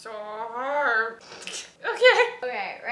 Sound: laughs

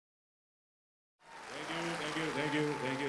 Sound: applause

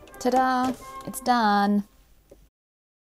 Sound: machine whirrs

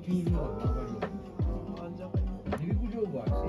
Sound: crying

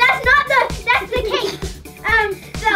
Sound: laughs

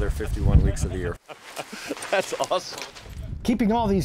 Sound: laughs

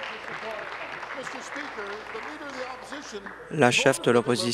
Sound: applause

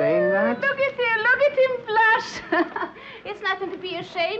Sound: chuckles

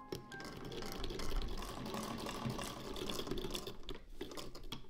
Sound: antique sewing machine ASMR

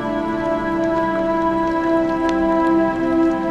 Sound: sounds of rain

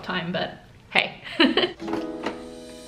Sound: laughs; upbeat music

